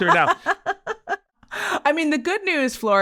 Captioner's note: person laughing